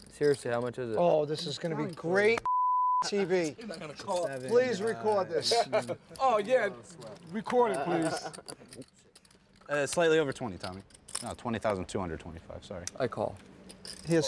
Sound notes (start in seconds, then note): 2.4 beep